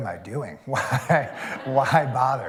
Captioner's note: laughter